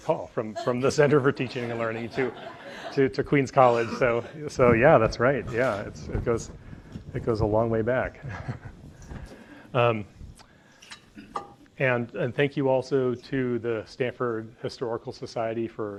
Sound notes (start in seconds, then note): 8.2 laughs